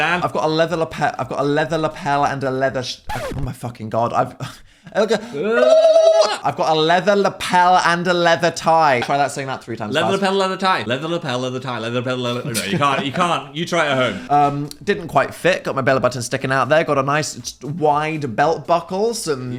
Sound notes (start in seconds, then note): 5.3 yelling